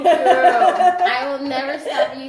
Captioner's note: laughs